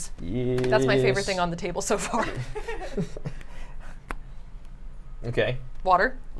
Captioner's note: laughs